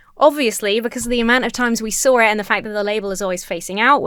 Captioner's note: none